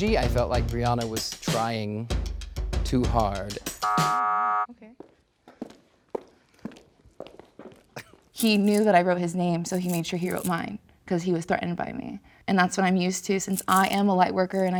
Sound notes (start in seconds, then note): 3.8 buzzer beeping